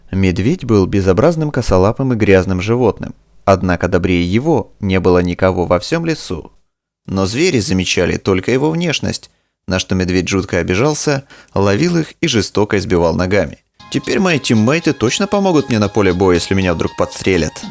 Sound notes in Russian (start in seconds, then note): 7.1 Звук с обработкой EQ